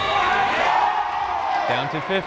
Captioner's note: crowd cheering